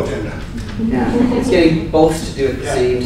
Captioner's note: laughter